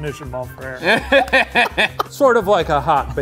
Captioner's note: laughs